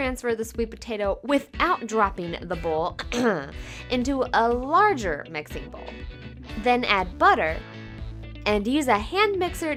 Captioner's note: ahem